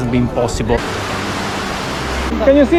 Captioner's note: waves